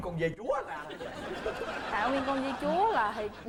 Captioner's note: laughing